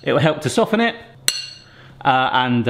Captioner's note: glass clinking; glass clinking